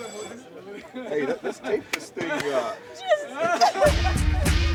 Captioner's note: laughing; Xolo laughing